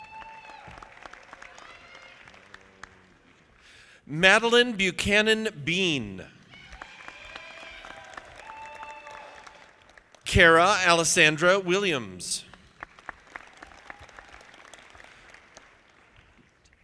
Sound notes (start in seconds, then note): 0.0 audience applauding; 6.4 audience applauding; 13.0 audience clapping